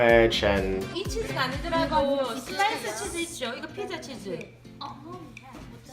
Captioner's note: speaking foreign language